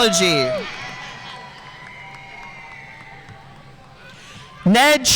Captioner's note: audience cheering and applauding